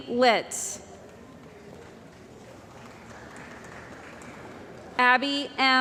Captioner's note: applause